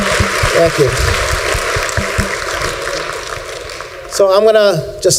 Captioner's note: applause